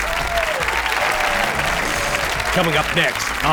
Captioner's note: cheers and applause